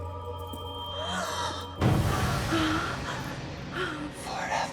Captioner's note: Bryn gasps